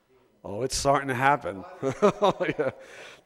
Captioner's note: laughs